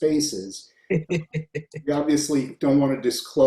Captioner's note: chuckles